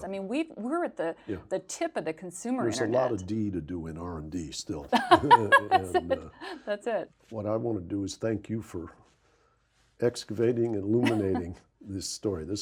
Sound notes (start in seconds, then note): 4.9 Rana laughs; 4.9 laughs